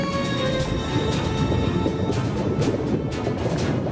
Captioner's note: bubbling